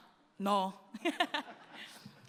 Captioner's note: laughs